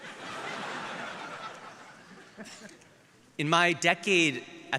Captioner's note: audience laughing